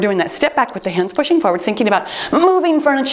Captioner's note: timer beeps